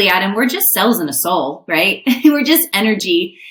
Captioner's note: chuckles